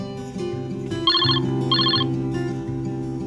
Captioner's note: ringing